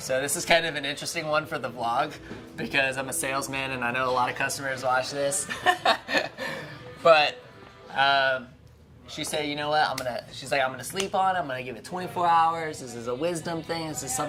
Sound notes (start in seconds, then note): 5.4 laughing